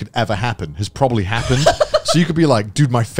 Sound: laughing

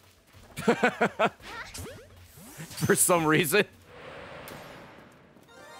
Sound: laughs

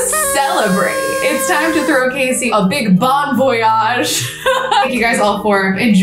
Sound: laughs

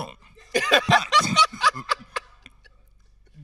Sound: host laughing

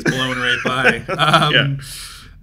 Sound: both laughing

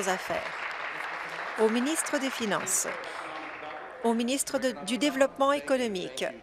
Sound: applause

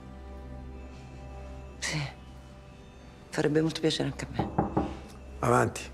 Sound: knocking at the door

